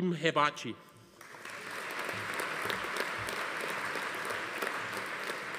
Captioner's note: audience applauding